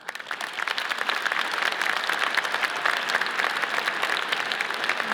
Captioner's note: audience cheers and applauds